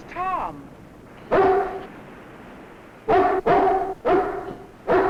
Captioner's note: dog barking